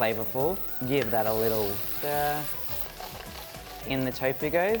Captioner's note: food spattering